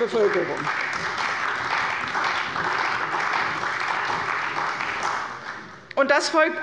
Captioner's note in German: Beifall bei der CDU